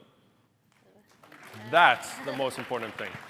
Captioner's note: applause